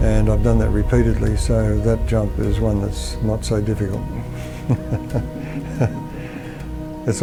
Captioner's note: laughs